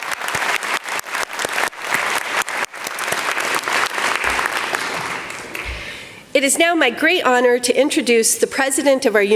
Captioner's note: applause